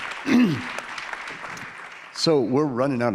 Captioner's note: audience applauding